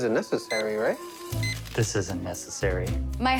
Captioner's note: scanner beeps